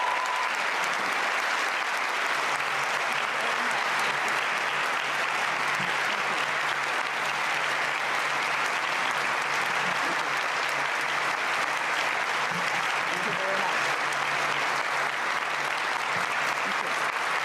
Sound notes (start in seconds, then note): 1.6 cheering and Applause